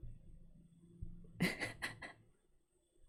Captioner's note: laughs